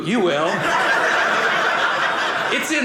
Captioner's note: audience laughing